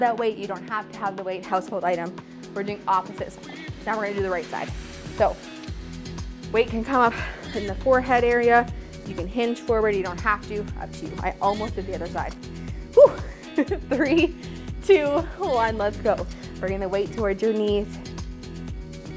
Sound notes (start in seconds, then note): 12.9 giggles